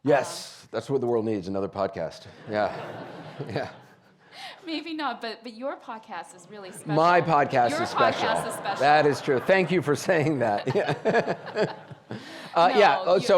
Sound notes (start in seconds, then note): 2.3 audience laughing; 11.7 laughing